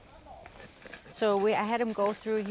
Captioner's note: sawing